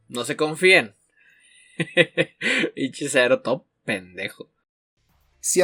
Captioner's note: laughs